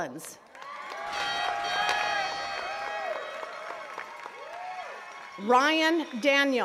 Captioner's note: attendees cheering and clapping